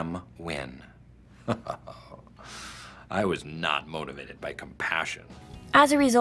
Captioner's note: laughs